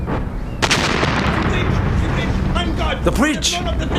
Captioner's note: explosion booming